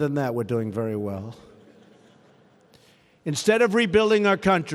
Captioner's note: laughter